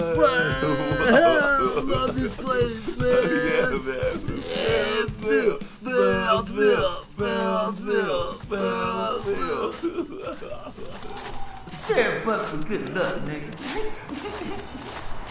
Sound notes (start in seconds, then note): 3.8 snickers